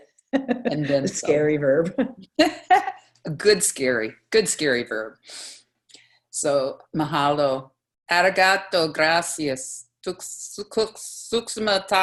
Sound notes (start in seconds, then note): 2.4 laughter